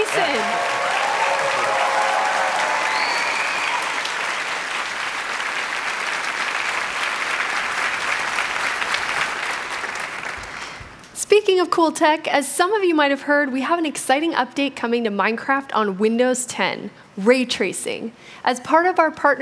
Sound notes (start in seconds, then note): 5.6 applause